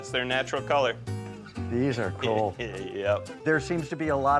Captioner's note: chuckles